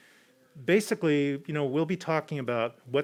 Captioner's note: none